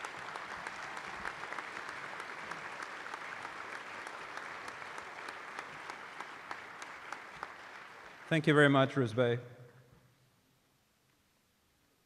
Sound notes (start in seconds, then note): 5.0 applause